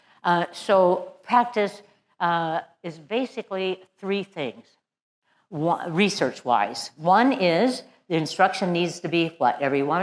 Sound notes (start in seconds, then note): none